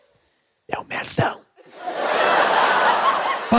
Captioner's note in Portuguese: sussurra